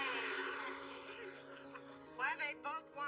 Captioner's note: laughs